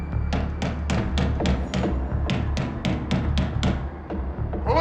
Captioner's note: knocking on door